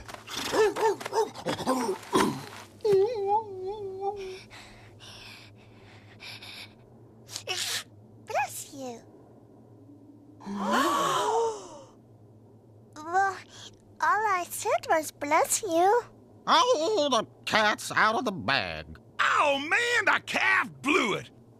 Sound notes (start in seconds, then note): 2.9 whimpering; 10.5 all gasp